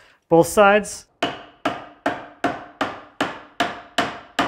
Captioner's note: hammer banging